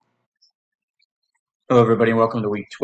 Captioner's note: silence